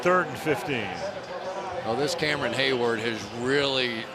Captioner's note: pa announcement; pa announcement